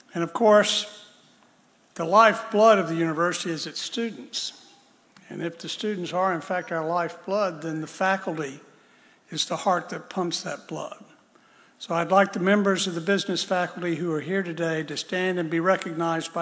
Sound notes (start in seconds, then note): none